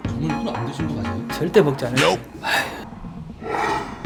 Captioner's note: sighs